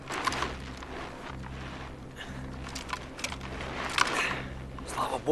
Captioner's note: crunch of snow